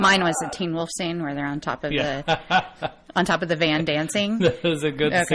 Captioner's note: DJ laughs